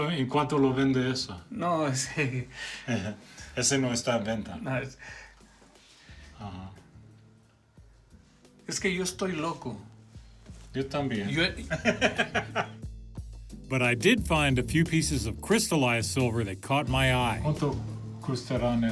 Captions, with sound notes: - [speaking Spanish] [laughs] BUT I DID FIND A FEW PIECES OF CRYSTALLIZED SILVER THAT CAUGHT MY EYE.